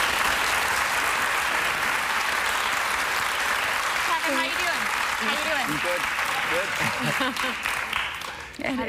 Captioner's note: applause